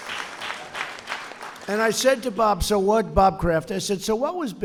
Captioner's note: applause